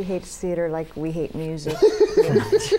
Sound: laughter

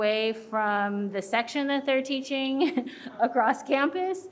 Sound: chuckles

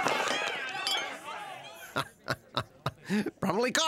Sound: chuckles

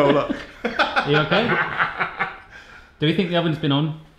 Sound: laughs

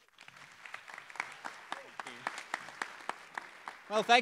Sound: applause

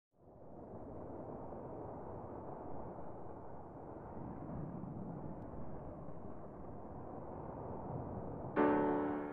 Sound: wind Blowing

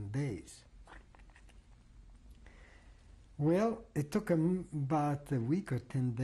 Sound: pauses for 3 seconds

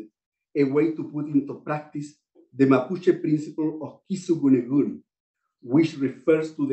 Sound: non-english

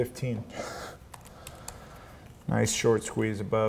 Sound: sighs; keyboard clicks

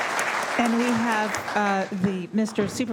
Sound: applause

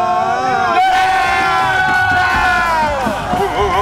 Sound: team cheering

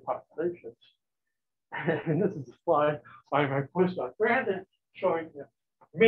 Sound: chuckles

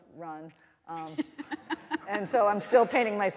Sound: all laughing

